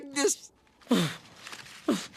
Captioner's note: sputtering